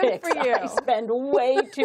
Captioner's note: laughter